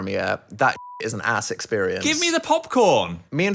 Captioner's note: beep